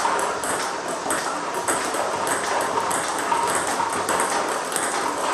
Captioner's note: ball ping pong hitting continues